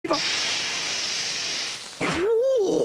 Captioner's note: steam hissing; monster groans